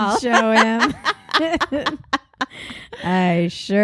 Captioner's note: laughing